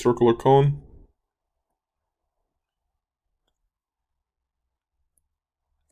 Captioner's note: clicking Sounds